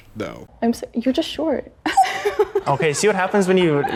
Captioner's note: laughing